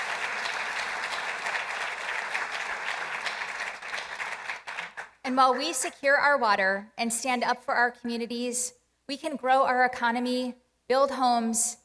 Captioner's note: applause